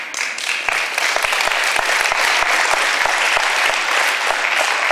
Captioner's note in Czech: potlesk